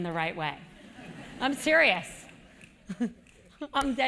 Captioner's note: laugh